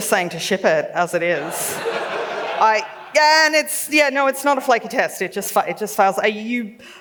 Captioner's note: laughs